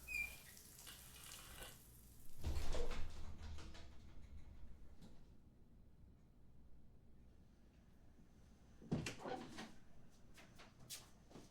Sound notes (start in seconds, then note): 2.4 shower stops